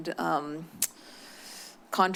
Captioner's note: clicks tongue